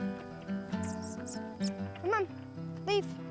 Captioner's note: chirruping